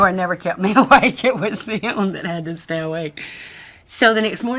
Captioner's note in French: Rires